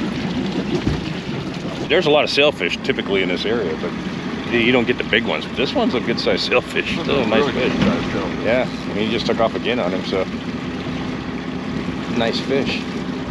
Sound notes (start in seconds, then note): 8.3 chuckling